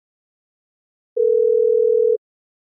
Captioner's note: phone ring